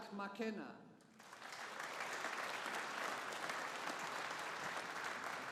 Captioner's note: audience applauding